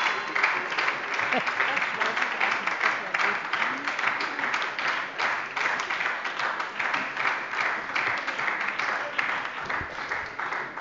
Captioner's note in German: Beifall bei der SPD und der LINKEN